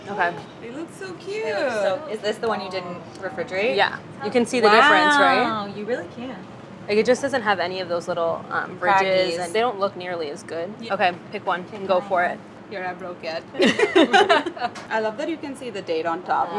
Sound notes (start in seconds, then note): 13.6 laughs